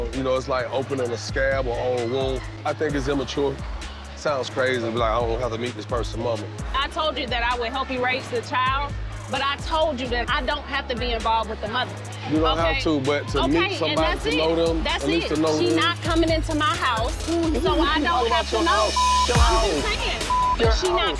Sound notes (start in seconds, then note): 18.4 beep